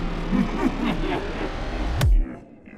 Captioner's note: muwahaha